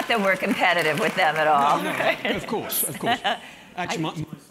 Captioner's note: laugh